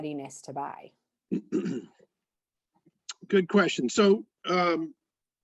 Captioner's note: clears throat